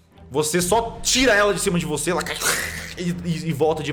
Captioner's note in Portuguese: rosnado de aranha